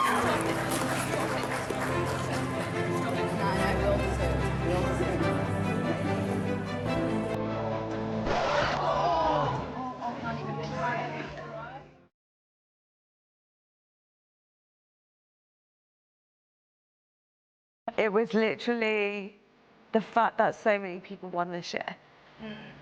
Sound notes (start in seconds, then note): 5.6 light music; 8.2 record scratching; 8.3 audience gasping; 9.7 people chattering; 12.2 light music